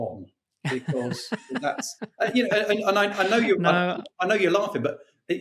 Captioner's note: laughing